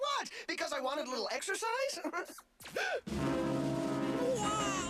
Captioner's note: gasps